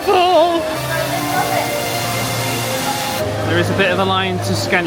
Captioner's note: water running